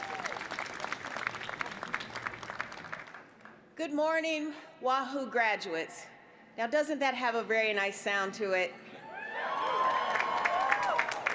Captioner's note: applause